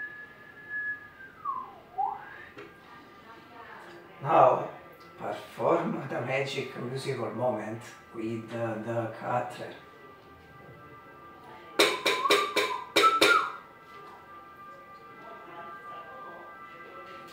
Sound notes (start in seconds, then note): 11.8 whistle